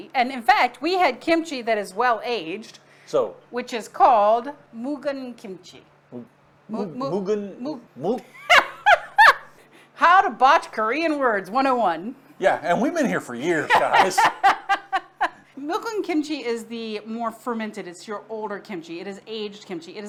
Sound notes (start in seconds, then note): 8.4 laughing